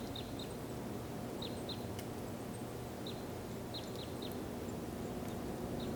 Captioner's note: wind whistling continues